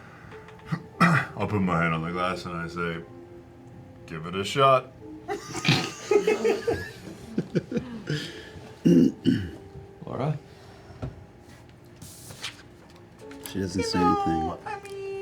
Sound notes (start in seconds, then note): 5.3 laughter